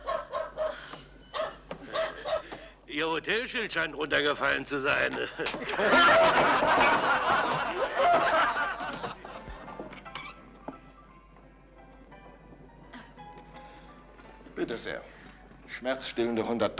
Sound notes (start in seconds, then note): 5.1 men laughing